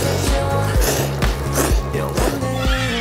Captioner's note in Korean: 폭풍 면치기